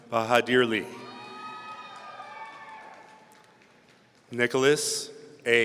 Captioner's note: audience cheering